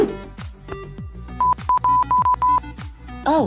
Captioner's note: inquisitive beeping